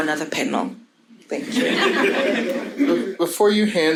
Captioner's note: audience laughing